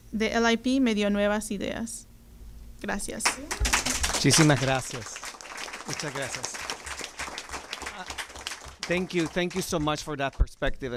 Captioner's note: speaking Spanish